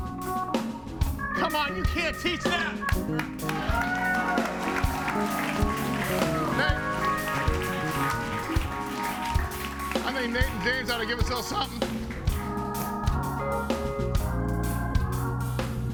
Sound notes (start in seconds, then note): 0.1 calm music continues; 4.0 audience cheering and applauding; 7.7 audience applauding; 7.7 calm music; 13.2 calm music